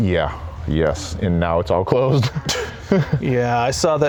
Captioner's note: laughs